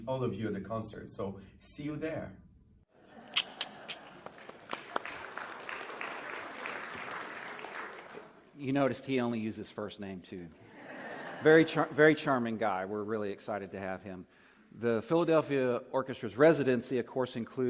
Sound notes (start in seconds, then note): 3.3 applause; 10.6 laughter